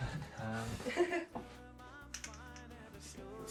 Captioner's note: laughing